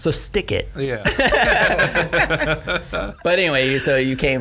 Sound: laughing

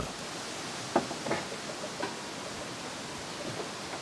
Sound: leaves rustling

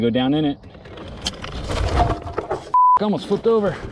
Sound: gear clicks

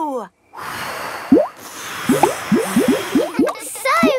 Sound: all blowing

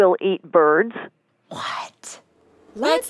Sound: almost whispering

